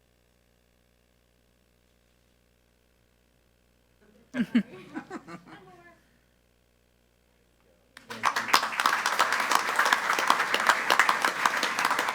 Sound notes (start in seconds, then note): 4.3 speaker chuckling; 8.0 group applauding